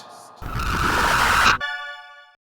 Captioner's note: screaming, glitching wind